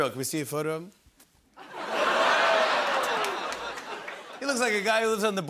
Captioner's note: laughter